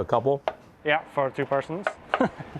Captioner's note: chuckling